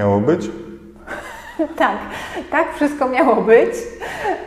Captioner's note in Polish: śmiech